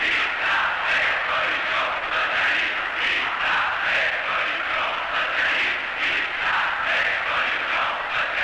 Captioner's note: chants